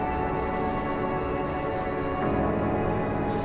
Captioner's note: marker quietly squeaking